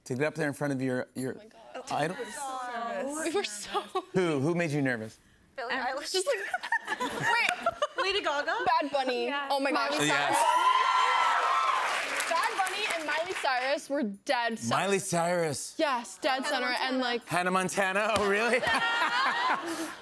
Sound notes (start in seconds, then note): 6.4 laughter; 10.0 cheers and applause